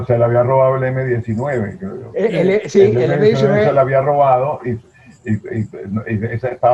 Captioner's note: laughs